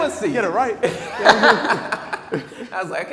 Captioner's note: laughing